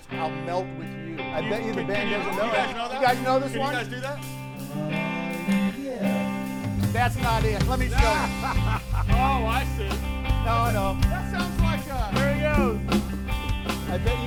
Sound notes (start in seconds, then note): 4.5 band member humming; 7.2 hosts laughing